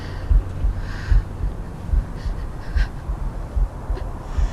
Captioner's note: gasping